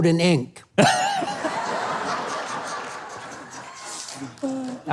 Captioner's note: crowd laughing